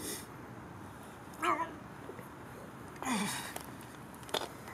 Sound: Barry groans

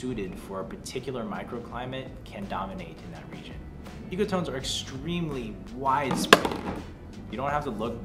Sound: bottle knocked over

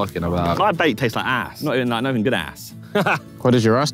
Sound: laughs

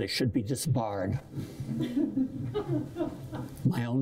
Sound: laughter

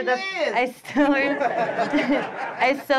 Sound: attendees laugh

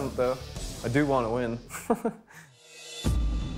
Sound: laughs; suspenseful music

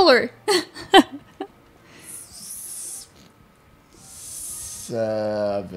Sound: laughing

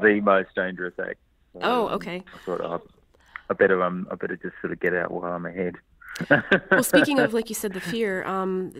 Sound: laughs; laughs

